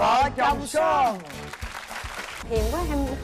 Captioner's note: applause